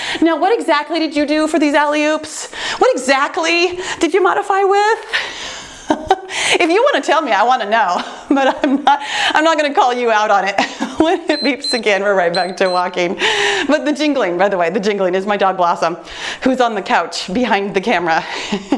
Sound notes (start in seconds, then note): 5.3 laughs; 8.2 laughs; 12.3 timer beeps; 18.5 laughs